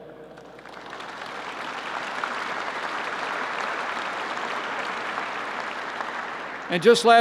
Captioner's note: applause